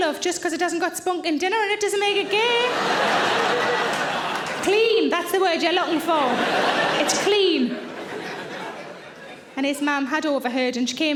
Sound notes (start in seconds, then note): 2.1 audience laughing